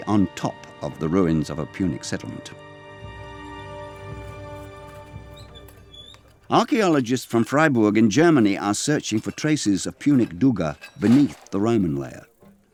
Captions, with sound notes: on top of the ruins of a Punic settlement. (wheel squeaking) Archeologists from Freiburg in Germany are searching for traces of Punic Dougga beneath the Roman layer.